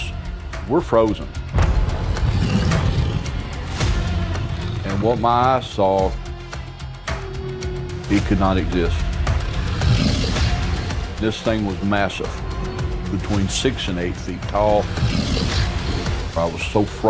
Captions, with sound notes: And what my eyes saw, it could not exist. [beast growling] This thing was massive, between six and eight feet tal. I was so frightened that I didn't know what to do.